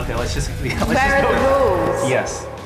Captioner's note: chuckling